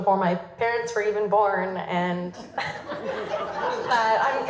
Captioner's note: laughter